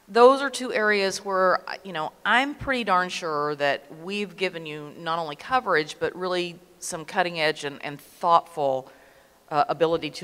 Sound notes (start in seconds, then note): none